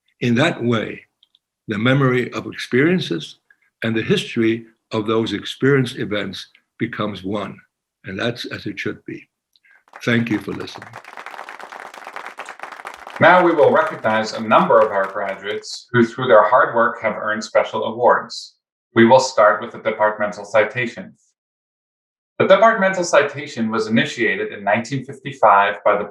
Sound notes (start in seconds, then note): 11.4 people clapping